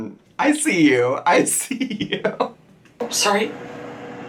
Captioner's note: chuckles